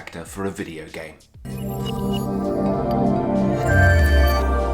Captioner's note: gentle chimes